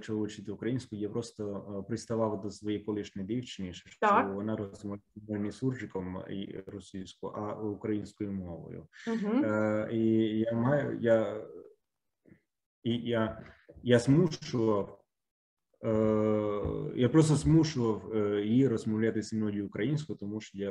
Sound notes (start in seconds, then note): 4.8 mix of Ukrainian and Russian